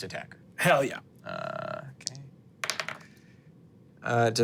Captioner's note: dice rolling